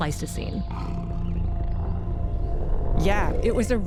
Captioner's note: horse neighs, camel grunts